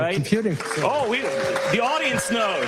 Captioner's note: audience cheering and clapping